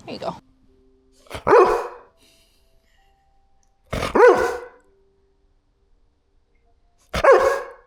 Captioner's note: barking